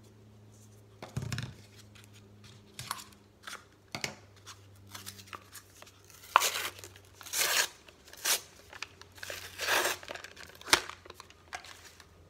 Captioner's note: tearing